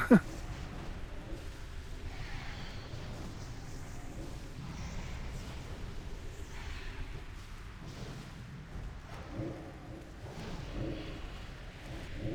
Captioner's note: laughs